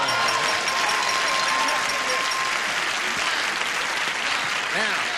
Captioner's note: ding